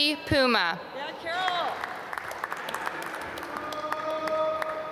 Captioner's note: applause